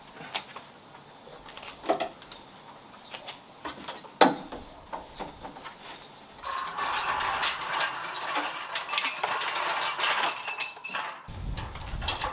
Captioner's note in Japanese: 作業音